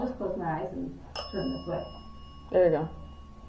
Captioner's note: bell dings